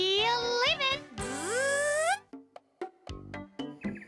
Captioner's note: buzzing